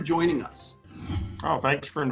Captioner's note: logo whooshing